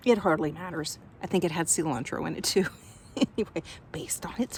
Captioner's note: chuckles